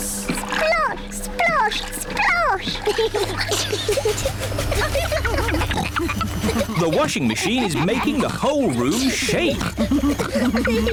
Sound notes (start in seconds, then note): 3.1 giggling; 5.3 rumbling